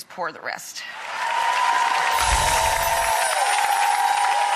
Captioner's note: audience cheering